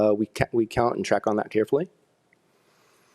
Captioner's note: none